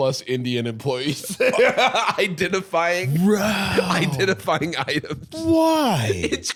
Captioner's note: laughing